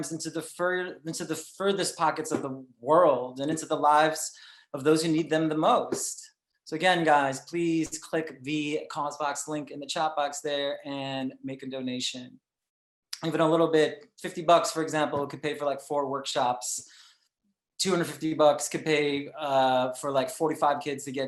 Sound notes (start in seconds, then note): none